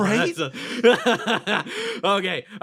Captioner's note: Etete Laugh